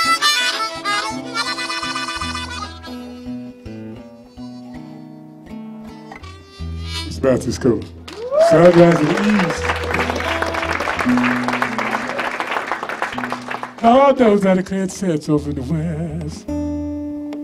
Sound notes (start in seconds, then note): 3.0 both softly; 8.0 applause; 8.6 singing; 10.8 applause; 13.7 singing; 17.1 soft guitar and harmonica